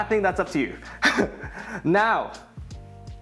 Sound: chuckles

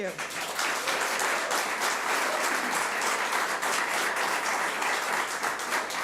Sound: audience applauds and cheers

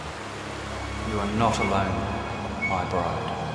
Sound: voiceover

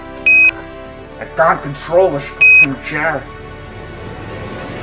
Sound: NASA beep

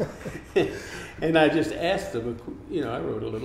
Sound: laughing

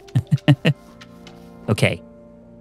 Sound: laughs

